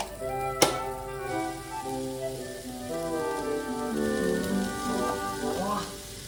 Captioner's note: tasting